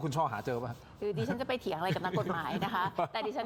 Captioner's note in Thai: เสียงหัวเราะ